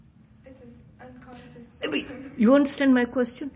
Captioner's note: laughs